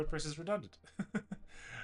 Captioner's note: laughs